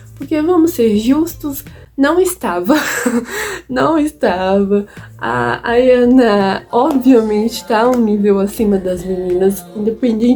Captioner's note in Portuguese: risos